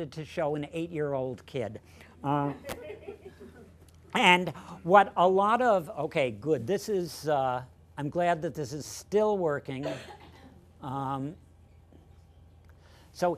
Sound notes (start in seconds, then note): 2.5 laughter